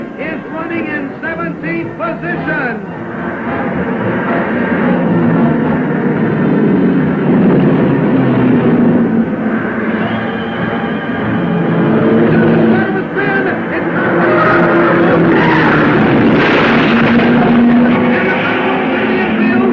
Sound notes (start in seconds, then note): 6.4 cars revving; 6.4 dramatic music; 14.3 tires squealing; 16.4 car crashing